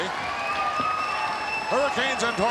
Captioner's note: audience cheering